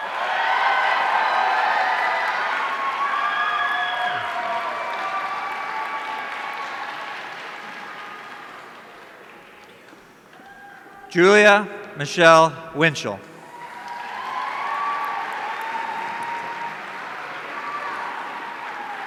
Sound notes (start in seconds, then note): 0.0 audience cheering; 13.3 audience cheering